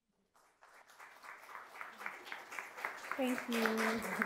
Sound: audience applauds

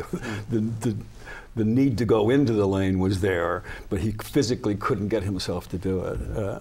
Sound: laughs

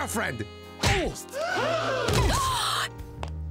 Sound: people gasping; gasps

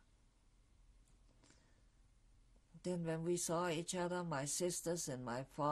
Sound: pauses for 3 seconds

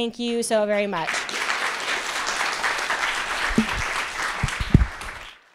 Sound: applause

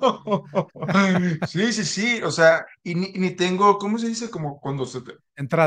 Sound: laughs

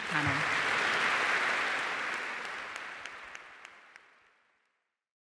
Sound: applause

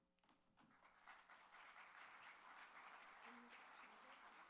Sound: applauds

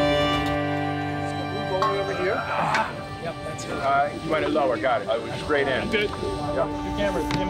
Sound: indistinct chatter

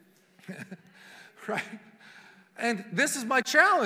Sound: laughing

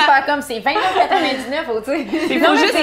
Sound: haha

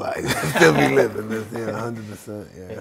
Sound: both laughing

